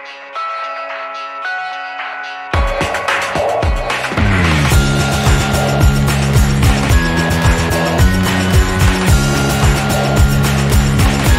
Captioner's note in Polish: Aplauz